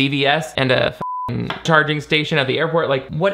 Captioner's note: beep